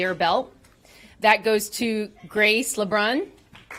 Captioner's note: applause